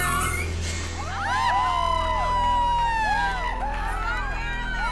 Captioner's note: women cheering